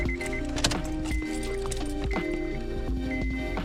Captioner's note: beeping